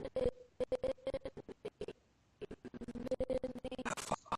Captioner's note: audio skipping